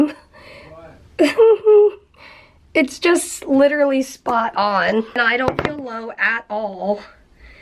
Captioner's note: she laughs a little